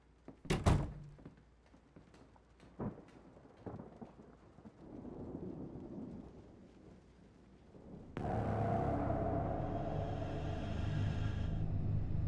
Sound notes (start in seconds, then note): 2.5 thunder booming; 8.2 ominous electronic music